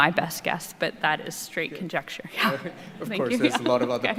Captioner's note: laughs